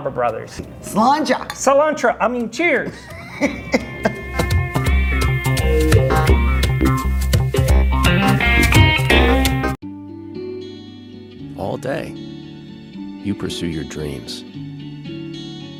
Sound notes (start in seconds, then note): 2.9 laughs